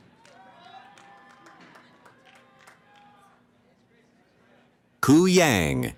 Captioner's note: cheering